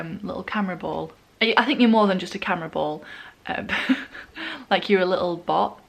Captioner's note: laughs